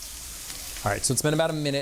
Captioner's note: skillet sizzles